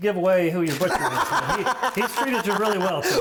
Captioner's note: laughing